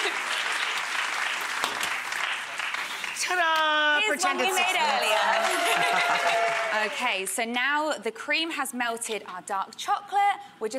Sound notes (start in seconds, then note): 0.0 audience applauding; 5.8 audience cheering